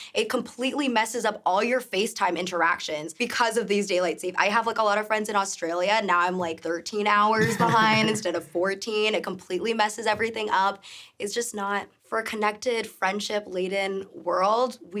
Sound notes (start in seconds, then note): 7.4 chuckling